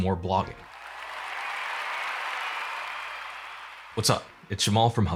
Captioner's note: cheering and applause